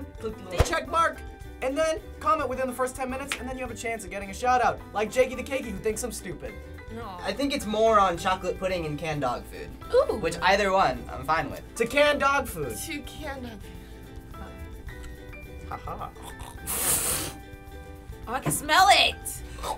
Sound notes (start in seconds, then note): 15.7 gags; 16.8 suppresses a laugh